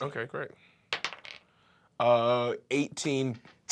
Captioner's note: rolls dice